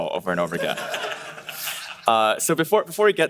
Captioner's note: audience laughing